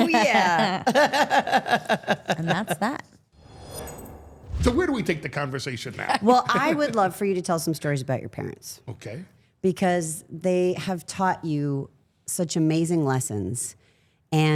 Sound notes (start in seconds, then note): 0.0 Steph laughing; 0.0 chuckling; 3.4 logo whooshing